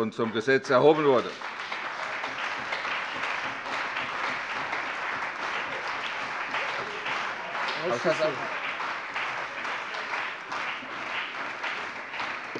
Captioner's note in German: Anhaltender Beifall bei der CDU und dem BÜNDNIS 90/DIE GRÜNEN